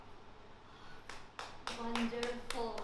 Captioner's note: claps